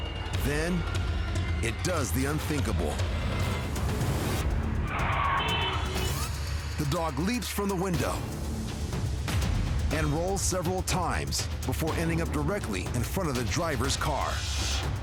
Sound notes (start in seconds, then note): 5.3 vehicle honks